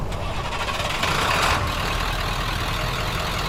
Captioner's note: engine wheezes; engine rattles; engine purrs